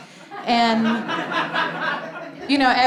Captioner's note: audience laughing